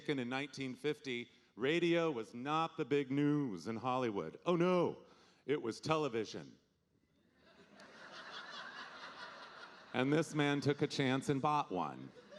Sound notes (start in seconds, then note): 7.4 audience laughing